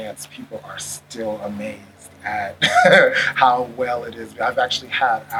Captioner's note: laughs